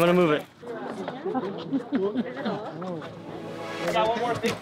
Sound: background chattering

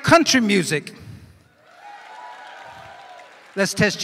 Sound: cheers and applause

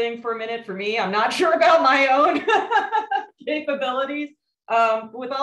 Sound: laughs

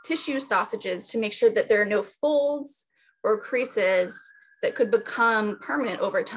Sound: ambulance siren

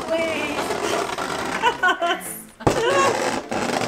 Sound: loud scraping

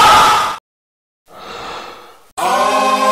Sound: inhale

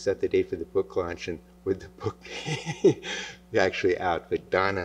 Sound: laughs

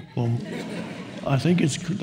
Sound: audience laughs

